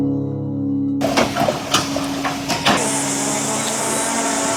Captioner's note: metal cracks, machinery whirrs